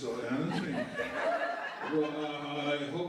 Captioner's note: laughter